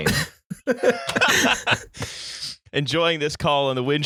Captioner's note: laughter; cockney voice